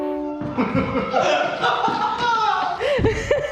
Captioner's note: laughing